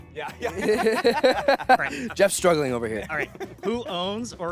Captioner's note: laughing